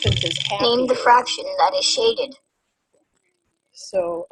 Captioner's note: voiceover